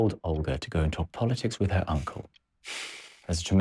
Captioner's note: Josip sighs